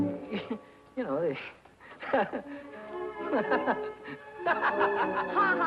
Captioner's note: Billy laughing